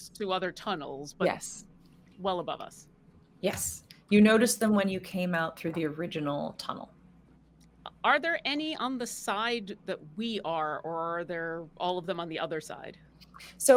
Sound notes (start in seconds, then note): none